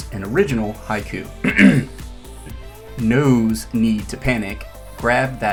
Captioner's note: clears throat